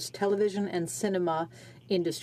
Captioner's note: speaking French